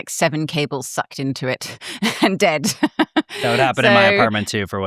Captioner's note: laughs